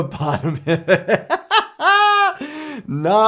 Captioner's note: laughs